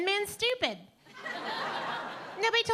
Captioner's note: audience laughing